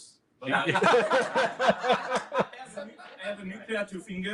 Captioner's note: laughter